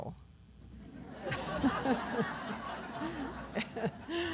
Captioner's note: laughter